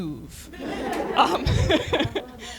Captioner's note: laughter